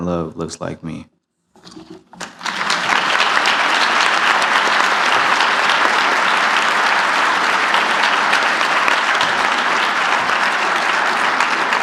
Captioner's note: applause